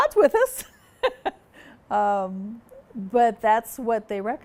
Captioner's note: chuckles